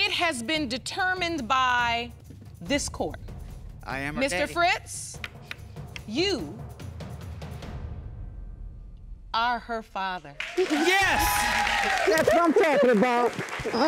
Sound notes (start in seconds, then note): 10.4 cheering and applause